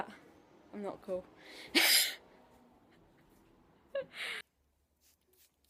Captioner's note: laughs